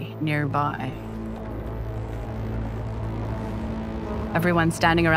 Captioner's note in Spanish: zumbido de ordenador, ♪ música dramática